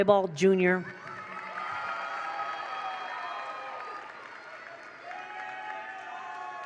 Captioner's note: attendees cheer; attendees applaud